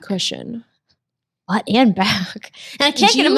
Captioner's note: laughs